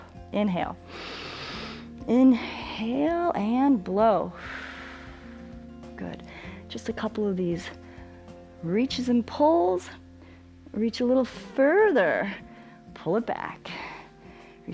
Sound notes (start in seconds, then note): 0.9 inhales; 4.6 exhales